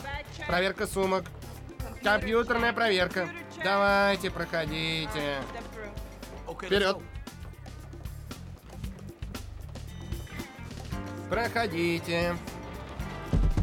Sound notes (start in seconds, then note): 9.9 buzzer